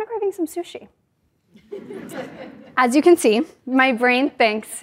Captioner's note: laugh